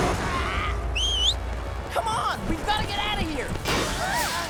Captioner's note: Sokka whistling